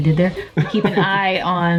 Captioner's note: laughing